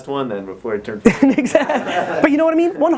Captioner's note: laughing